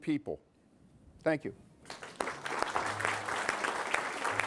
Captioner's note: applause